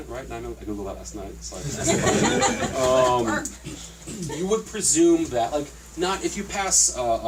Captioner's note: laughter